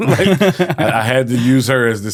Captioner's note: laughing